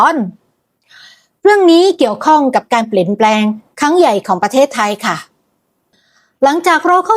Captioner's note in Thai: เสียงสูดหายใจ